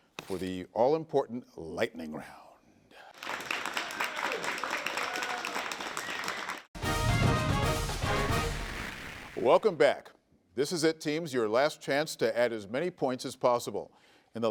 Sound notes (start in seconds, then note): 3.1 audience applauding; 6.7 dramatic music